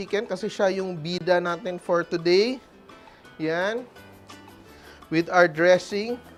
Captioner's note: none